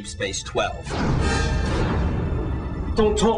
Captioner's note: explosion